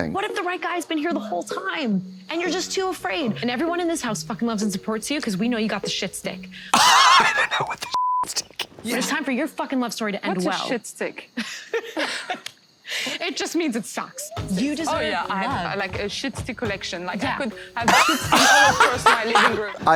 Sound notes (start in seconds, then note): 6.8 Katya pants; 11.4 laughs